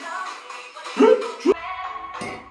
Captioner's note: hik hik